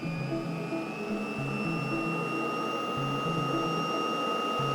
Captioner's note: machine whirring